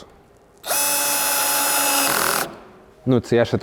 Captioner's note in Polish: dźwięk wkrętarki